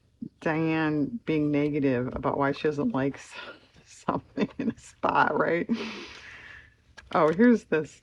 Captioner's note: laughs